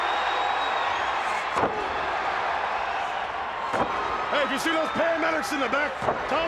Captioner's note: crowd cheering